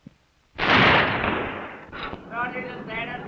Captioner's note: gun firing